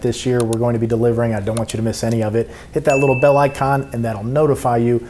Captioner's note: bell rings